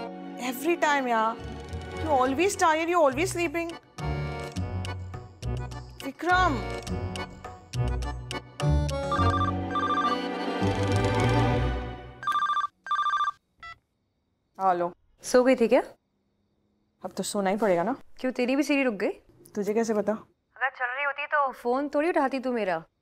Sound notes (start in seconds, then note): 9.0 phone ringing